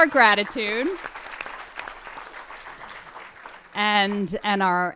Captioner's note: audience applauds